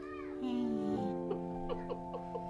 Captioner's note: kids playing in the hallway; giggles